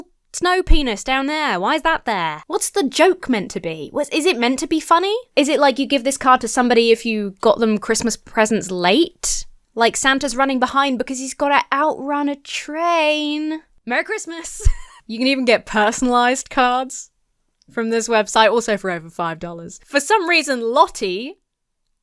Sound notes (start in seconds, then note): 14.5 laughs